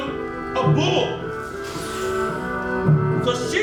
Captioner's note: bull noises